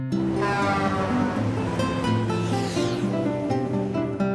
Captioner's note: horn blaring; gentle music